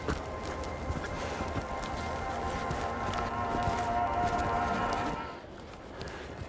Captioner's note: gentle quiet music; shuffling footsteps